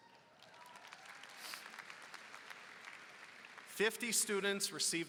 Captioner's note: applause